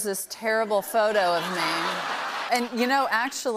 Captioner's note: laughter